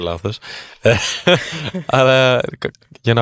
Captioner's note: chuckles